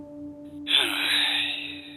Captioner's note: sigh